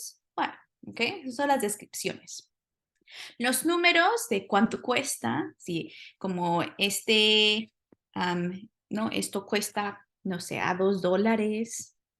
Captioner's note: spanish; speaking spanish